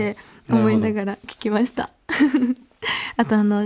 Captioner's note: laughs